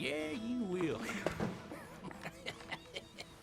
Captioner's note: laughing